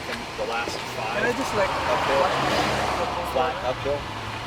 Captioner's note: whooshing car drowns out speaker